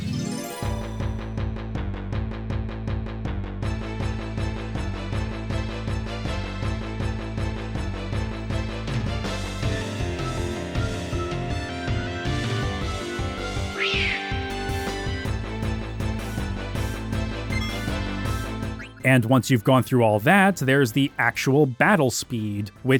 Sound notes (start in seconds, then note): 13.7 monsters screech; 17.5 menu chimes